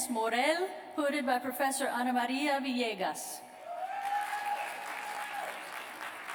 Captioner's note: applause